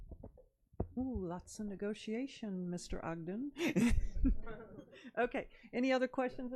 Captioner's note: laughs